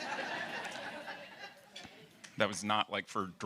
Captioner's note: audience laughing